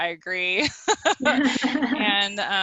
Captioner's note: both chuckle